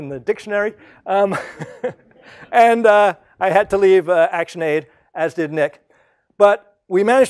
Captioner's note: laugh